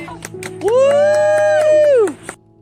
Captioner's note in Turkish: Alkışlar